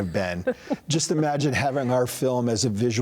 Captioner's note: interviewer laughs